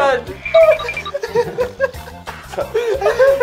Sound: laughing so hard~

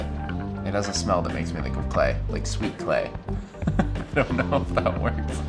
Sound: laughs

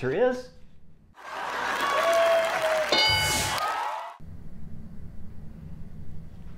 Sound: cheering; clapping

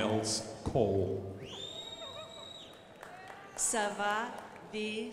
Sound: crowd applauding

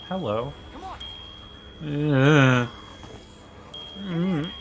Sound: bell rings

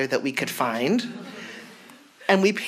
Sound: audience laughs

